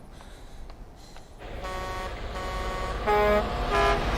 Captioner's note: horns honking